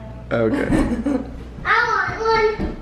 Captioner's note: giggles